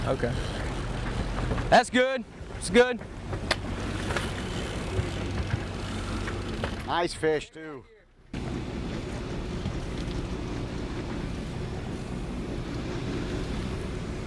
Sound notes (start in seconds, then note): 5.1 line pulls; 8.1 boat engine whirs